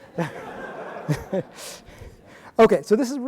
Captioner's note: audience laughing